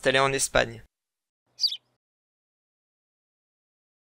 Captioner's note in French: chant d’oiseau